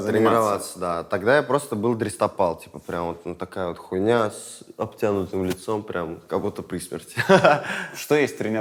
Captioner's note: laughs